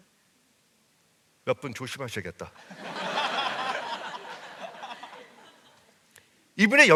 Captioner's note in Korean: 웃음